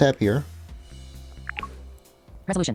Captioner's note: popping sounds